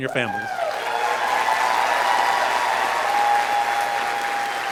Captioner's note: audience cheering